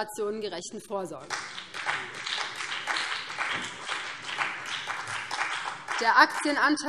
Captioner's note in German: Beifall BÜNDNIS 90/DIE GRÜNEN und vereinzelt CDU